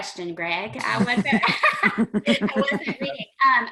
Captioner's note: laughing